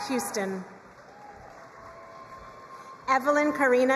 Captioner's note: crowd cheering and applauding